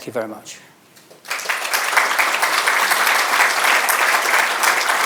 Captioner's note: audience applauding